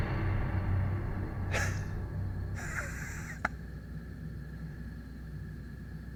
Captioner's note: Penn Laughing Sinisterly